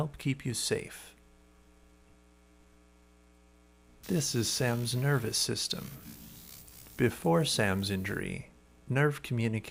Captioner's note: electrical impulse